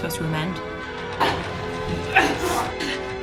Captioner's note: grunting